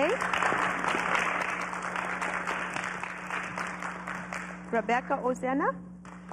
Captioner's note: applause